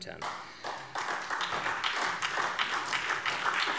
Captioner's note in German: Beifall SPD